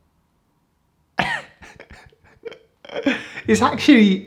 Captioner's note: laughs